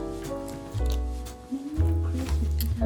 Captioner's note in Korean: 뇸뇸뇸